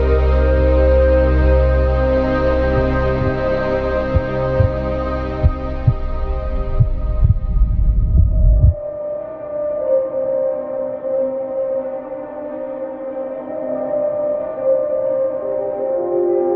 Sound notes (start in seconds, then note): 2.8 heart beat thudding; 2.8 light dramatic music